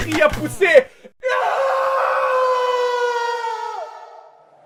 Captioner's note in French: hurlements